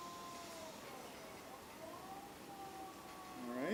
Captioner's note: whirring noise